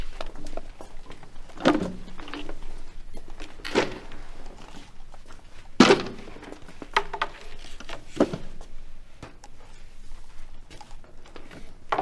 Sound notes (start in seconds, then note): 5.8 chair plunks